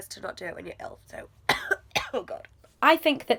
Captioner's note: coughing